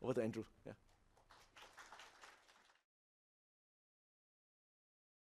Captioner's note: applause